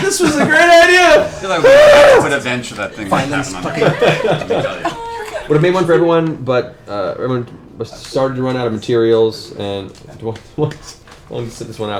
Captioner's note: screams